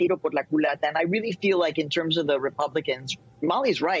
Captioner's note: speaking spanish